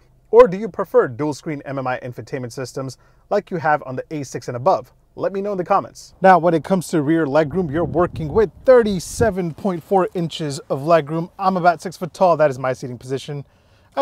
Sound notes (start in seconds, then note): none